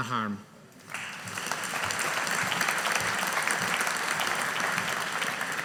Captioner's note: audience applauding